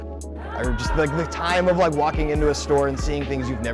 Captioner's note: cheers